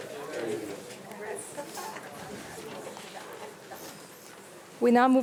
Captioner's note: board members and attendees speaking faintly